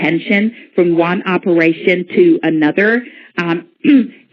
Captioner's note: clears throat